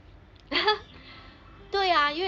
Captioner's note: laughs